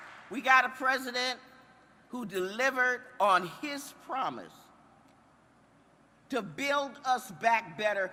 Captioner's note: applause